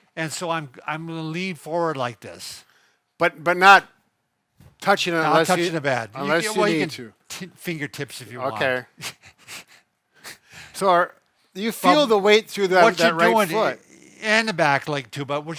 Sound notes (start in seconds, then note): 8.9 laughing